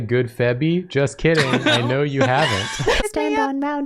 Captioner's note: laughing